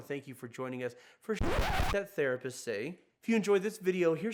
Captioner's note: record scratches